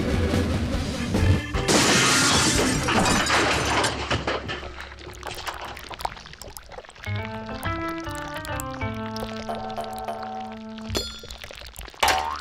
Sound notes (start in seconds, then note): 1.6 crash, clattering